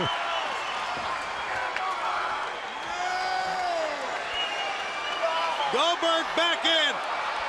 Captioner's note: crowd cheering